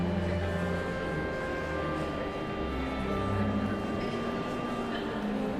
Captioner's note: pensive organ music continues; audience chattering continues